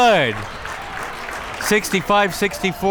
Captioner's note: crowd members clapping